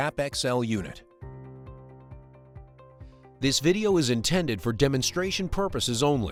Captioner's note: pre-recorded voiceover